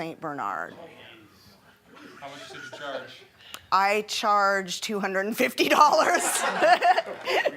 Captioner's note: laughing